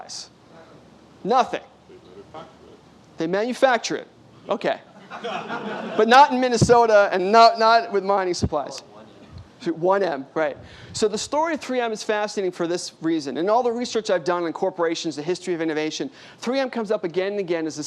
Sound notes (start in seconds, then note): 4.9 laughter